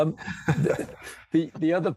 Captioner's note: laughs